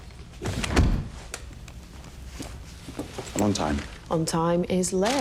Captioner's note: door beeping; door closing